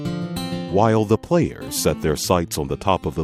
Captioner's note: voiceover